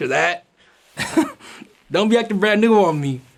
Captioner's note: laughs